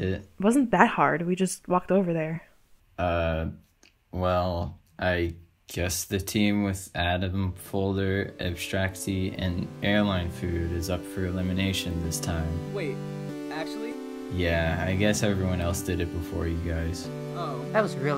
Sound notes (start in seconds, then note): none